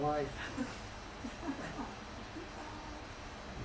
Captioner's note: laughter